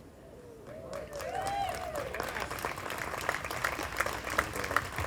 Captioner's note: group applauding